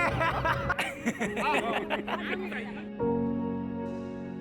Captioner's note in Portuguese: risos